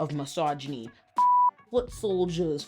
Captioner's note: beep